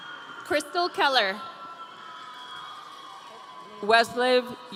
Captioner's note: audience cheering